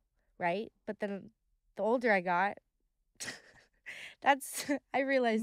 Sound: chuckles

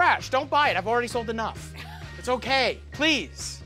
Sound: laughs

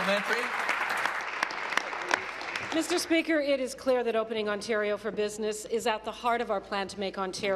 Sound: applause

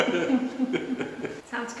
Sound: laughing

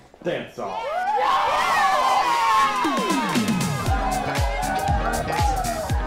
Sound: all cheering

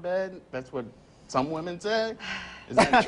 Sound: laughs

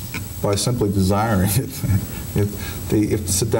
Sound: laughing

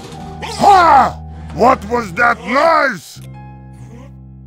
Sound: TF2 Heavy Voice

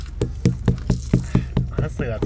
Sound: knocking on watermelon

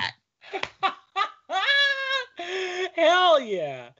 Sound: laughing

